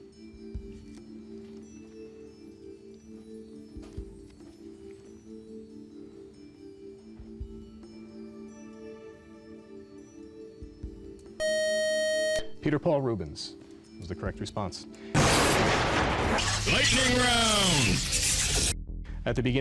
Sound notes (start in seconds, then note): 11.4 beep; 15.1 lightning crashes